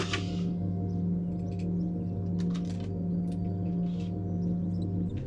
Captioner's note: computer chimes; cd tray clicks and whirs